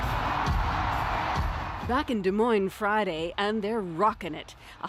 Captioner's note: cheers and Applause